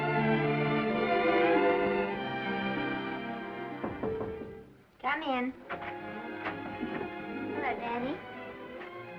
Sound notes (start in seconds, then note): 3.7 knocking; 6.3 door unlatching; 6.3 gentle music